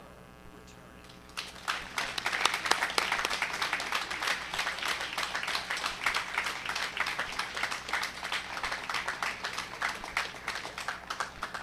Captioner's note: applause